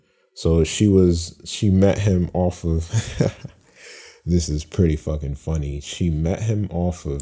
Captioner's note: laughing